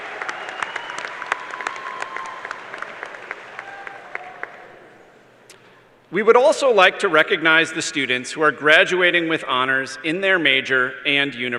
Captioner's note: cheers and applause